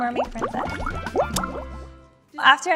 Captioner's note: bubbles popping